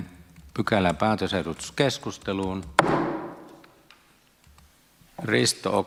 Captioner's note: Nuijan kopautus